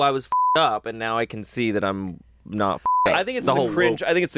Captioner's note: beep; beep